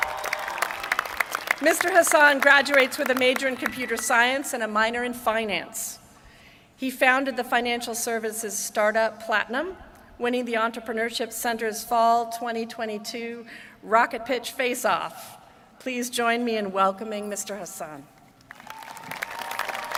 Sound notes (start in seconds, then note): 3.5 applause